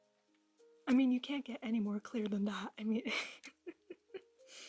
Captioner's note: chuckle